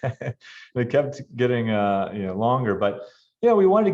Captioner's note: laughs